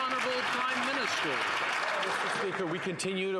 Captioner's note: some Applause